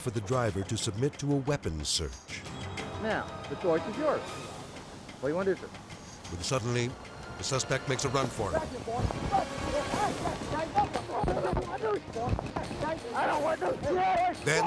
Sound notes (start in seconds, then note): 2.3 edgy dramatic music; 9.9 indistinct conversation